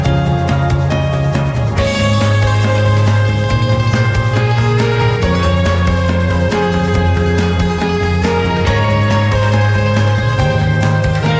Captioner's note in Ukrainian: оплески